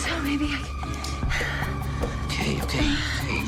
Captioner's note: Nicole breathing heavily